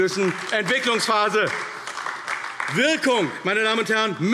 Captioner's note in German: Beifall AfD